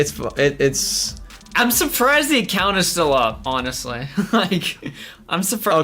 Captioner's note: laughs